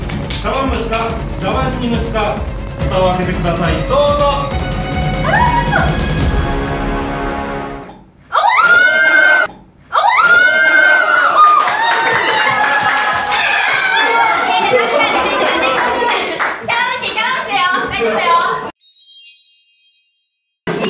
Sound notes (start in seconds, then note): 8.3 cheers